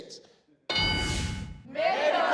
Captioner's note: ding